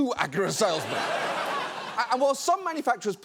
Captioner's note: audience laughs